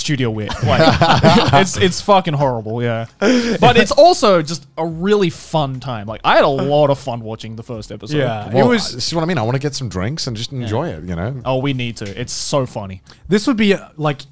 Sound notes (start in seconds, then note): 0.5 laughing